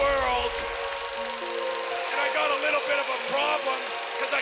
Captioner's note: crowd cheering